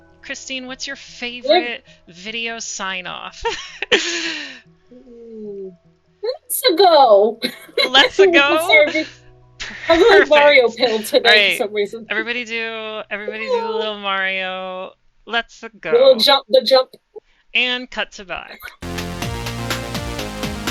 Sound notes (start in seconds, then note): 6.3 mario voice